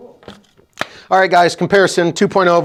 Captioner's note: claps hands